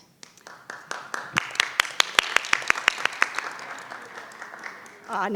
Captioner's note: everyone applauds